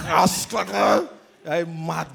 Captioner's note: speaks in tongues